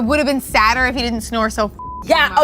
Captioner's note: beep